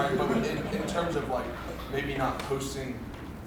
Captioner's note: group laughs